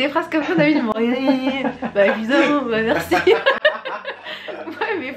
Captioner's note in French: rires